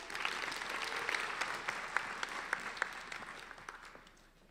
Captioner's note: applauding